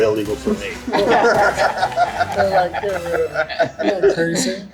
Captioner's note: group laughs